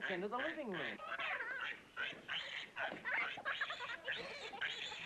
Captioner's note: piglet squealing, Kenny laughing